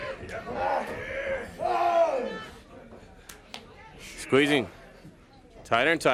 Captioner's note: crowd chatter